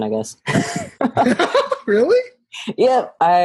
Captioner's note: laugh